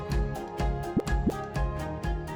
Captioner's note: graphic pops